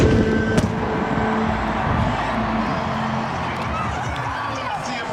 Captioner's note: fireworks bangs and pops; spectators cheering